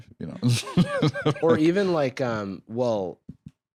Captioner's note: laughs